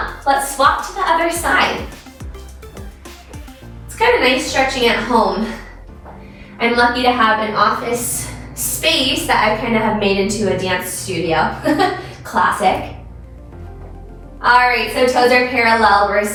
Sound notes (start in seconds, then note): 2.2 soft bright music; 11.6 chuckles